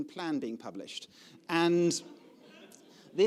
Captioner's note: audience laughing